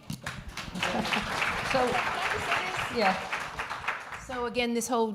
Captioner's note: applause